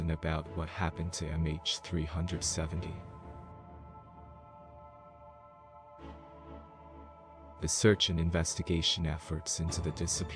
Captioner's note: voice-over